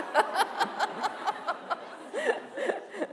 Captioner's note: laughter